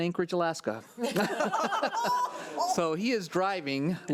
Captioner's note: board laughs